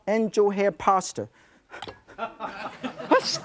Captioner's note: audience laughing